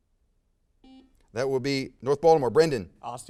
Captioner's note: buzzer sounds